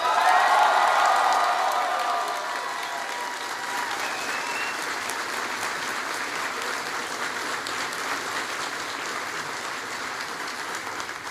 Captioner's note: applause